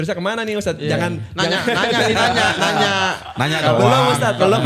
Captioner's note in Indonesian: tertawa